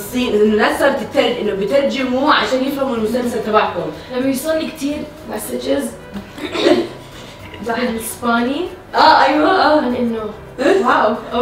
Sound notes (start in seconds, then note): 4.0 hoarse voice; 6.3 clears throat